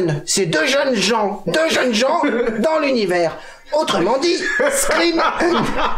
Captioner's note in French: Rires